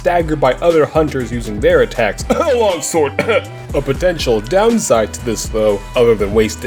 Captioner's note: cough